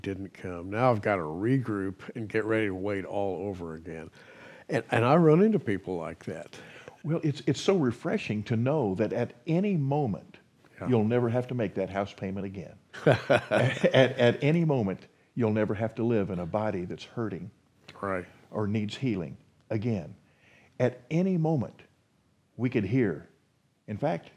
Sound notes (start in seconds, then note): 13.0 chuckles